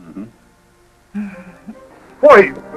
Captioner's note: chuckles